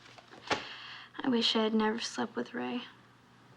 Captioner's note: sighs